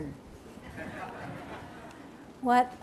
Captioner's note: laughter